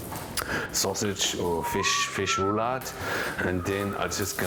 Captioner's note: whistles